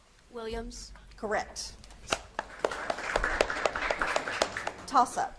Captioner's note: audience claps